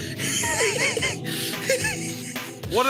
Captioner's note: laughs